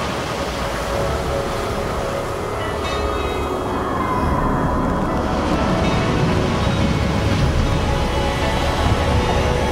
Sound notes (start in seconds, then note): 3.8 woman screaming